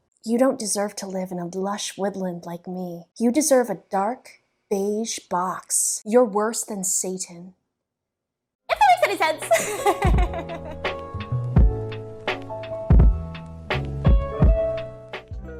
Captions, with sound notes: You don't deserve to live in a lush woodland like me. You deserve a dark, beige box. You're worse than Satan. IFTHATMAKESANYSENSE! [giggles] [lofi jazz]